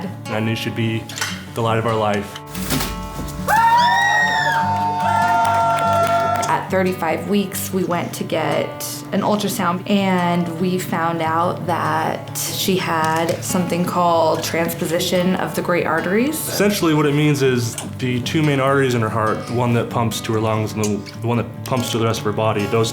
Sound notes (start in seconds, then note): 3.4 crowd cheering